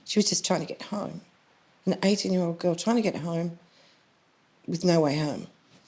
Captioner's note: none